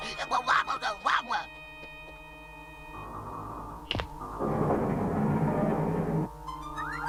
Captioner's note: whimpers